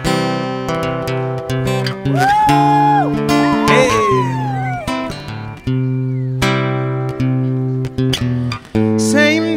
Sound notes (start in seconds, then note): 2.1 applause